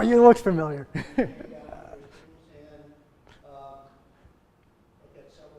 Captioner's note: laughs